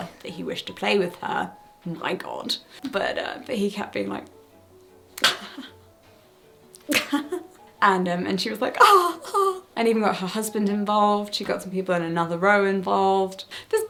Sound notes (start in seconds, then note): 6.8 chuckles; 6.9 imitates laughing